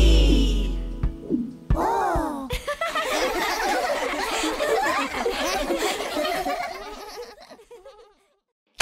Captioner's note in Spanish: Música Alegre; Risas